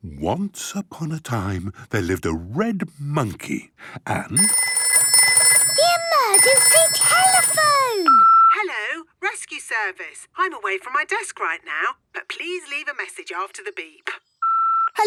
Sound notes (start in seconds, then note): 4.4 phone ringing; 8.1 answering machine; 14.6 beep